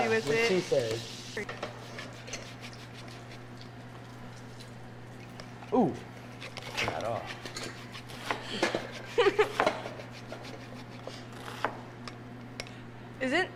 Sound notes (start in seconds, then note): 0.0 pan sizzling; 1.9 zester grating; 7.8 zester grating; 9.0 giggling; 9.4 zester grating